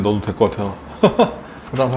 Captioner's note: dad Laugh